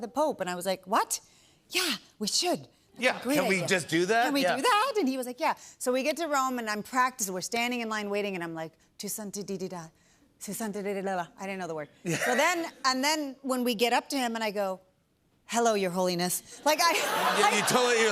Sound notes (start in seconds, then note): 8.8 speaking Spanish; 16.7 laughter